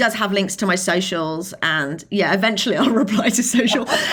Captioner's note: laughing